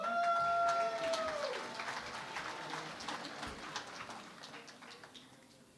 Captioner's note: cheering and Applause